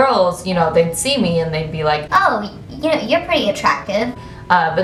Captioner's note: high pitched voice; regular voice